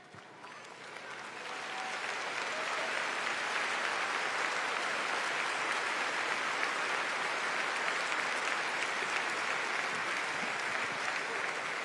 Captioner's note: applause